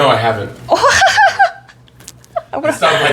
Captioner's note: baffled laugh